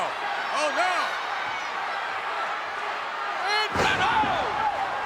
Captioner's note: crowd yelling